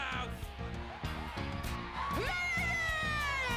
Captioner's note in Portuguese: audience cheering